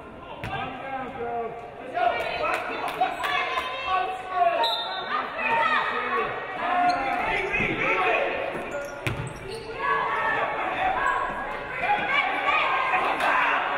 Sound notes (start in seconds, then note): 4.6 referee blows whistle